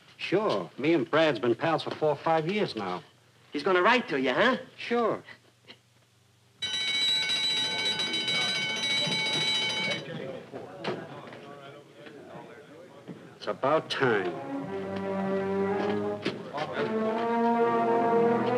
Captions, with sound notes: - Sure, me and Brad been pals for four or five years now. - He's gonna write to you, huh? - Sure. (loud bell ringing) (all murmuring) It's about time. (suspenseful orchestral music)